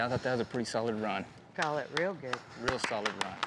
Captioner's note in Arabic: تصفيق